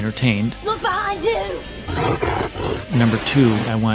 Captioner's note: growling sound